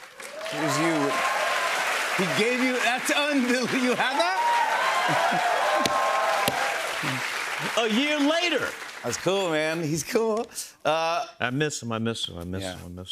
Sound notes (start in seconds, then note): 5.3 cheers and applause